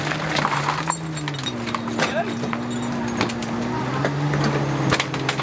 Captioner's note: objects clinking